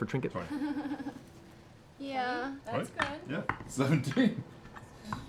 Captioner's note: nervous laugh